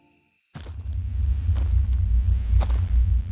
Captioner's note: heavy footsteps approaching, eerie ambient music